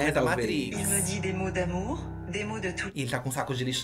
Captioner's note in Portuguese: narração em francês